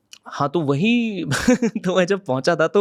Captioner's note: laughs